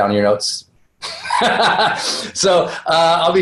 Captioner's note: laughs